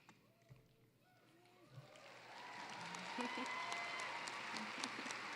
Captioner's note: cheering, applause